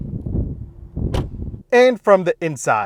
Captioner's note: door thuds